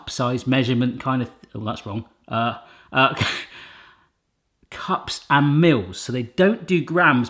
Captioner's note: he laughs